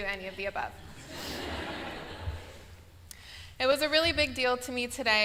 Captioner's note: laughter